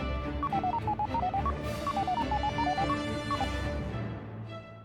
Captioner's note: male prototype blipping